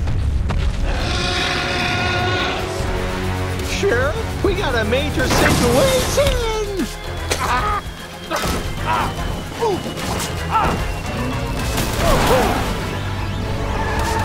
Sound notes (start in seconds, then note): 0.8 dinosaur roars; 7.4 grunts; 8.9 groans; 11.6 cars crashing; 14.0 tires screeching